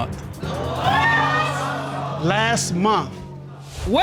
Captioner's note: audience gasping